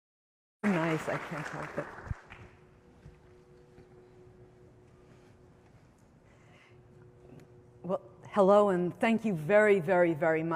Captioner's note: applause